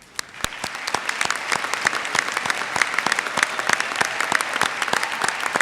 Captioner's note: audience cheers and applauds